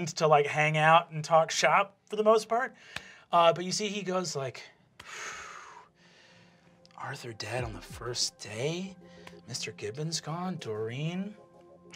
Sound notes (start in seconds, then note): 5.0 exhales